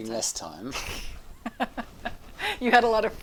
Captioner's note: light chuckles